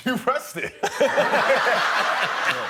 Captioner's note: laughter